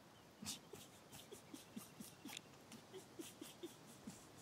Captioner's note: laughing